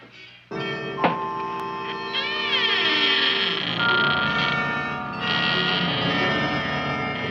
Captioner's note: gun thumping; Audrey Jr. Squeaking